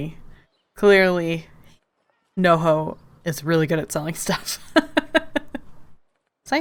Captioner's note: laughs